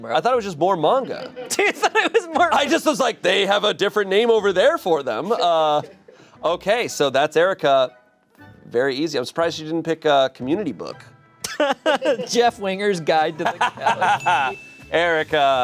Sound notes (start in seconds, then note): 11.4 laughs; 14.0 bell chimes